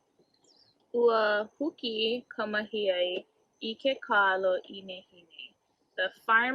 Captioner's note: student 1 speaks in native language